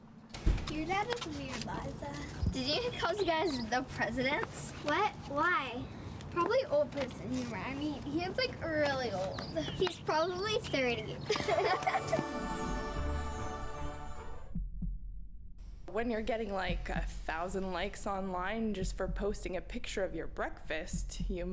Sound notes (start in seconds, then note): 11.2 giggles